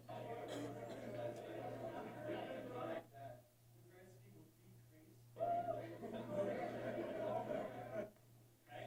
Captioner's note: background Discussion